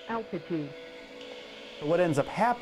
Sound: automated voice

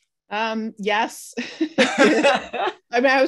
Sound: chuckles

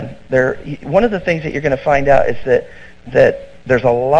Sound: sarcastic

